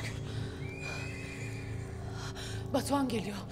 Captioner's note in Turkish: At kişneme sesi